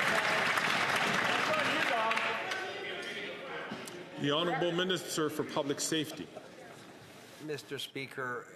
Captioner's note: some Applause